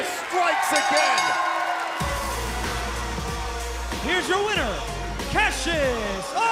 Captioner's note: bell ringing